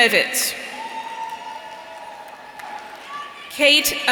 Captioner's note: audience cheering